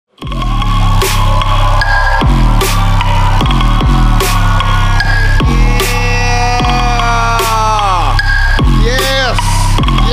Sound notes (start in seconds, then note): 0.6 upbeat music; 2.2 audience applauds